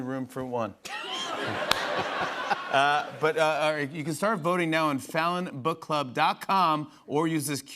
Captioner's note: laughter